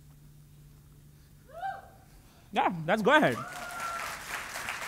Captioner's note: person hooting; applause